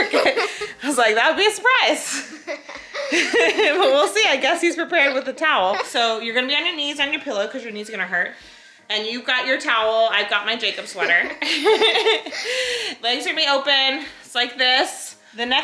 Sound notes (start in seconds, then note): 10.8 laughs